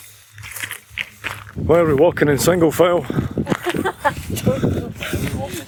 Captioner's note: laughter